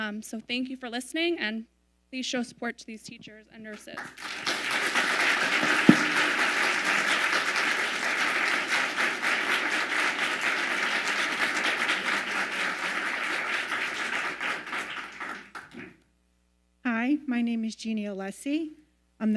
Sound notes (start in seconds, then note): 4.2 audience applauding